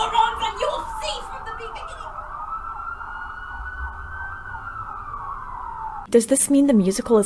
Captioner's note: police sirens